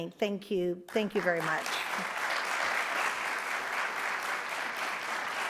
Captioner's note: audience applauds